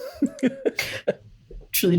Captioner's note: laughter